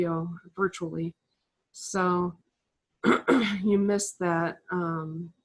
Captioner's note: cough